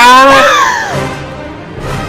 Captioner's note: gasps